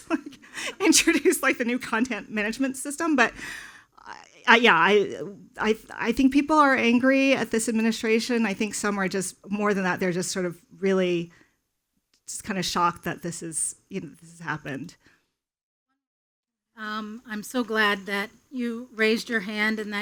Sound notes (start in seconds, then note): 16.1 speaking faintly